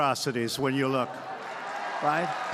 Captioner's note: applause